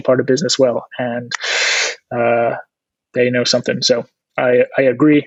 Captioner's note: huffing